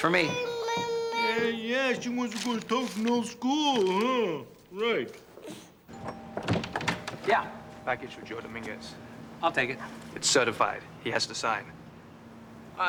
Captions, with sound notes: (Lucia jabbering) That's for me. Yeah, yeah, she wants to go to Tufnel School, huh? Right. (rings doorbell) Yeah? Package for Joe Dominguez. I'll take it. It's certified. He has to sign.